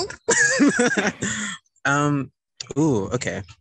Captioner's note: laughs